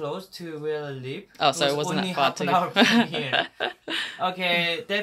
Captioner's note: laughs